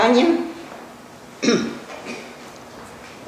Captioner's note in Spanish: clears throat